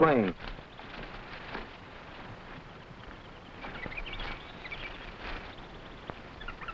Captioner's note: footsteps rustling; animals chattering